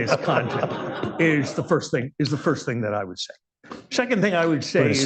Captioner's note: laughter